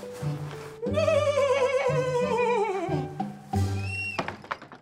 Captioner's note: neighs